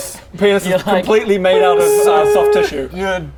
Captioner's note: beeeeeeeeeeeep